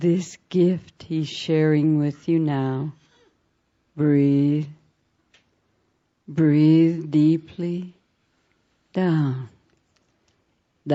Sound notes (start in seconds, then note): none